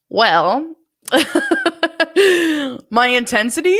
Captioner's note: laughs